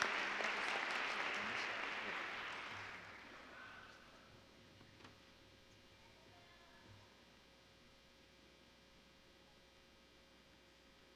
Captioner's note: applause